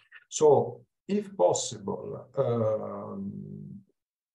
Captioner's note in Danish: Abbreviated speech